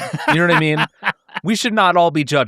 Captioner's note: laughing